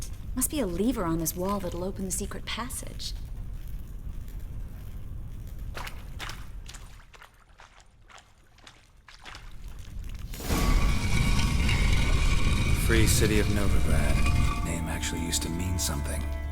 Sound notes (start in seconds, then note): 10.3 scraping noise